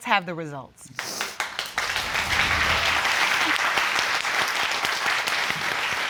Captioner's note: all applauding